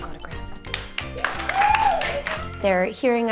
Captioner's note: class clapping